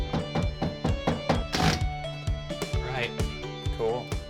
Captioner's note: soft hammer banging; drill rattles